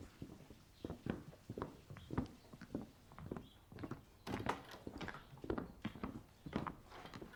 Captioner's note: footsteps; barn ambience fades out; door opens and closes